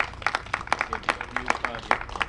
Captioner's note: applause